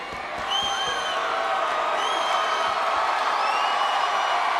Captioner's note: audience cheers